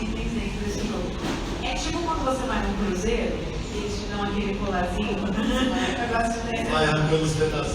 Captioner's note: laughs